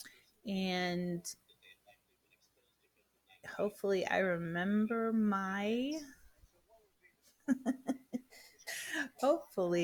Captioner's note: laughs